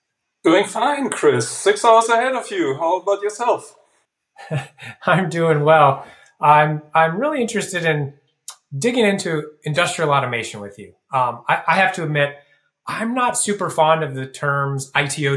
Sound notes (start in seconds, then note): 4.4 chuckles